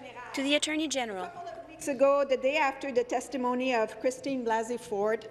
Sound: speaking in French

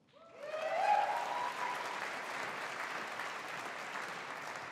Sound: audience applauding

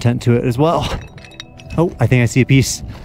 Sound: debris rustling

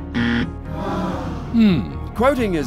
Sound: disappointed sigh

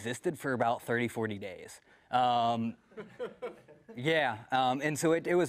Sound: laugh

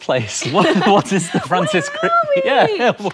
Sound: both laugh

